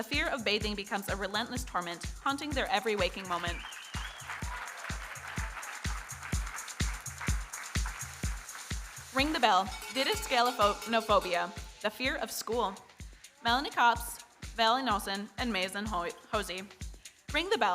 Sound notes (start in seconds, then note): 4.6 audience cheering and applauding